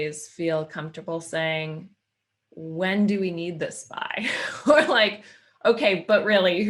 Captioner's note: laughing